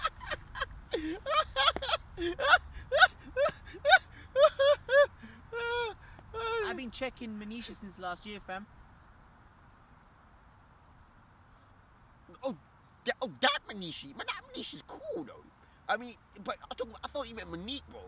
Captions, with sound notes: (Laughing) I been checking Manisha since last year fam! (Awkward Silence) Oh that Manisha! Oh that Manisha is cool bro! I thought you meant Monique bro